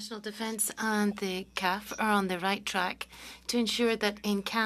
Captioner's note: speaking French